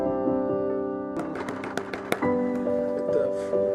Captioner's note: banging